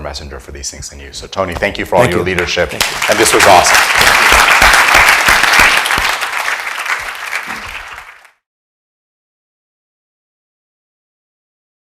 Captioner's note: audience applauds